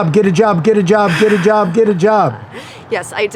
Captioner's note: chuckles